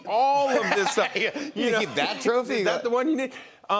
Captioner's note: laughing